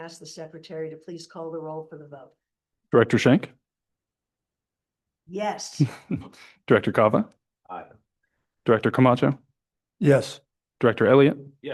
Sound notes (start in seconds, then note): 6.7 laughs